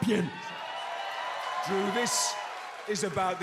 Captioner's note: cheers and applause